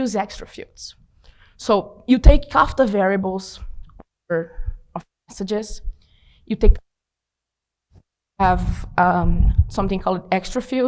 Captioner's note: audio cutting out